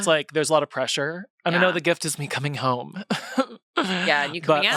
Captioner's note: laughs